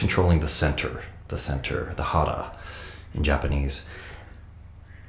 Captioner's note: speaks in foreign language